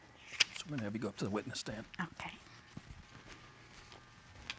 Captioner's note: none